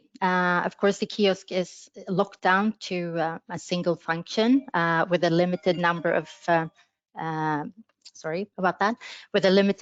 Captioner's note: phone rings